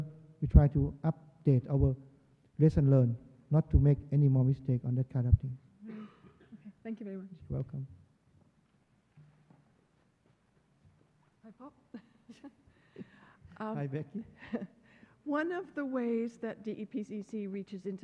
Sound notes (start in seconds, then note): 12.9 laughs